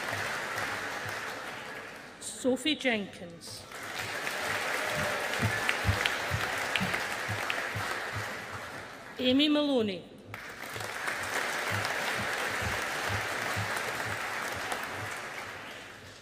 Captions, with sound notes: Sophie Jenkins. (AUDIENCE APPLAUDING) Aimee Maloney. (AUDIENCE APPLAUDING)